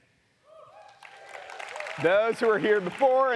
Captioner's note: audience applauds